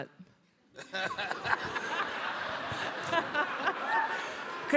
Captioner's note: all laughing